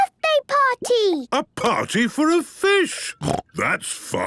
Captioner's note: snorting